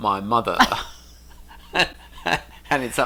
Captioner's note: laughs